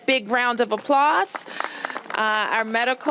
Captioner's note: applause